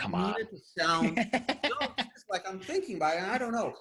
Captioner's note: laughing